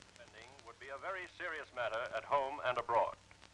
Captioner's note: radio Announcer